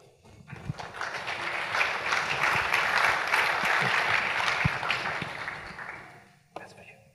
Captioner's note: applause